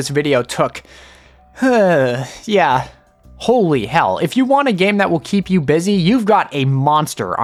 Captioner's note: sigh